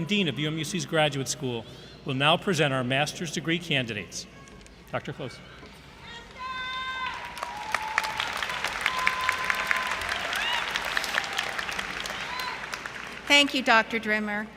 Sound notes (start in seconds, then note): 5.7 yell From Audience; 8.2 crowd Cheering